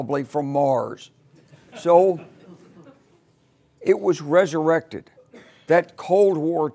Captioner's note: laugh